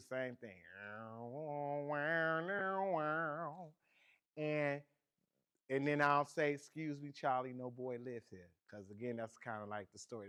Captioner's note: imitates guitar chords